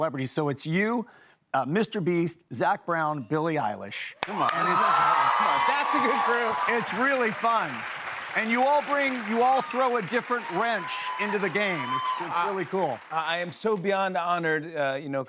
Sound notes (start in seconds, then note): 4.4 cheers and applause